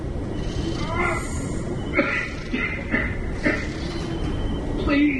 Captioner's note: coughing and groaning